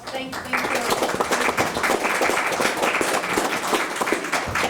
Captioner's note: group applauding